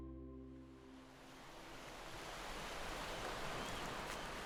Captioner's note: footsteps on the dirt; gentle waves crashing